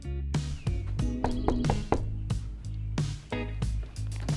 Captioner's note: lighthearted guitar music; knocking